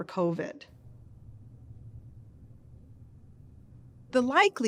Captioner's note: silence